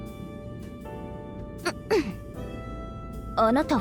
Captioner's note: exhale